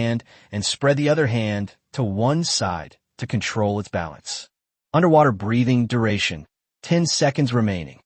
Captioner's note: underwater Breathing